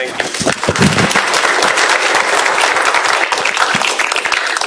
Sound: applause

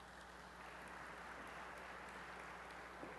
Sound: applause

